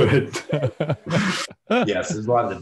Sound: laughter

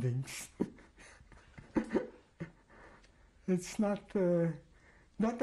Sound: laughs

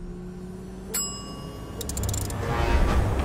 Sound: whirring; bell dings; creaking

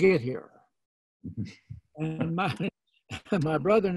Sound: laughing

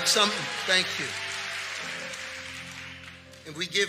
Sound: congregation cheering and clapping

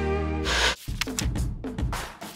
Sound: Static

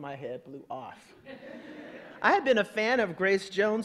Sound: audience laughing

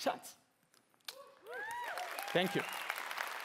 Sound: cheering

